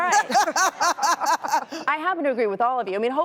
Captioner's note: laughing